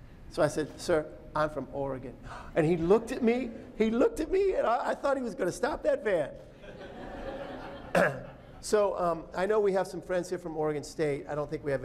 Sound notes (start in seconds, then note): 6.6 laughter